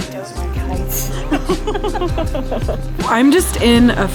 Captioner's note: laughing